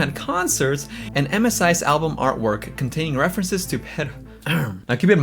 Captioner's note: clears throat